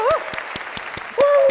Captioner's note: clapping